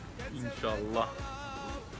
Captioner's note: in Arabic